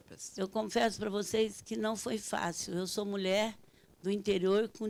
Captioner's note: speaking Portuguese